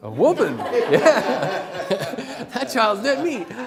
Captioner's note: laughter